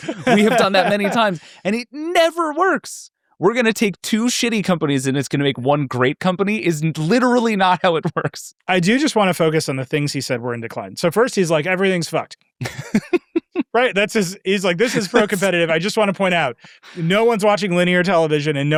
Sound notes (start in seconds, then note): 12.6 laughing